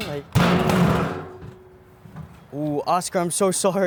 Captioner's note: fist banging